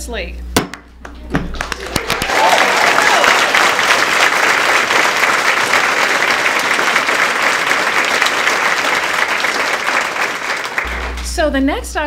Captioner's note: applause